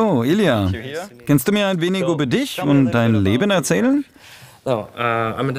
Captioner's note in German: englisch